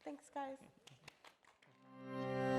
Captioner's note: audience applauding; gentle music